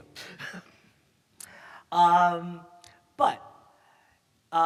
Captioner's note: chuckles